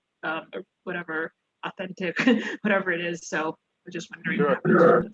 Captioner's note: laughs